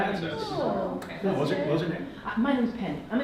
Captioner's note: audience mutters